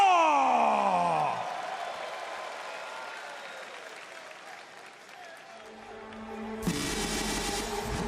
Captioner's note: crowd cheering